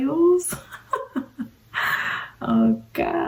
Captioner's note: laughing